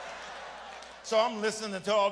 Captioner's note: audience laughs